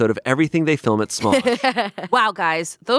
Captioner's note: laughing